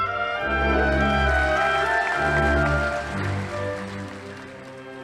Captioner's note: audience applauding